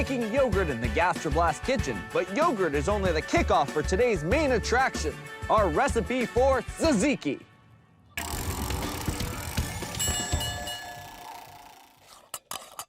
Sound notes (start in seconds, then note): 9.8 bell rings